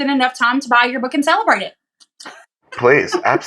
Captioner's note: laugh